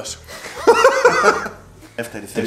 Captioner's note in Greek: γέλια